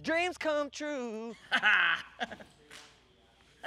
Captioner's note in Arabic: يضحك